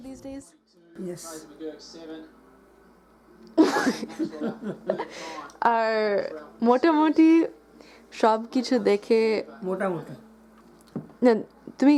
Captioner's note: audible laughter